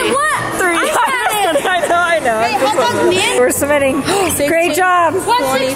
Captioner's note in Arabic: يضحك